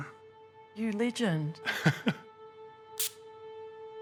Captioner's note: chuckles